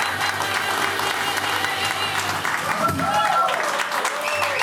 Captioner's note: audience applauds